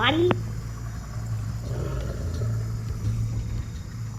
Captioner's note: Phorerean creatures sounds